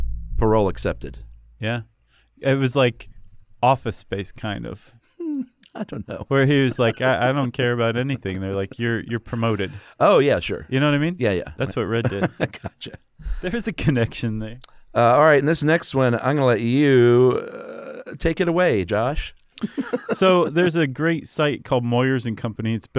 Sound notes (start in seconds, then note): 5.2 chuckles; 11.8 chuckles; 19.6 laughs